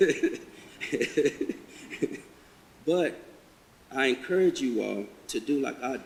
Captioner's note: chuckles